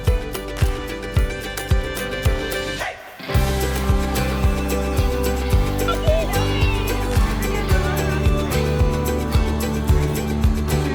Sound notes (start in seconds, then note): 4.4 joyful music continues; 6.0 people exclaiming; 7.5 light music continues